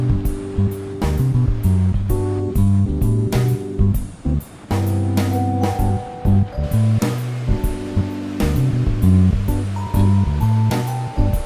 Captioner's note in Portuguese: Barulho da cidade